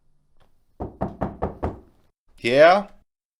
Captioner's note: person knocks